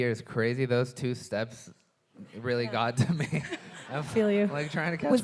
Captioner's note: chuckles